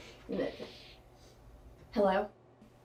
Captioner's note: sniffing